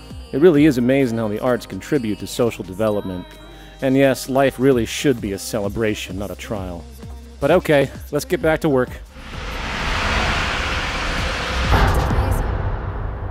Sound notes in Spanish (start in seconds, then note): 11.6 Poof!